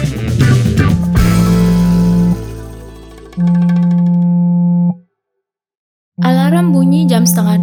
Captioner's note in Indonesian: Suara handphone bergetar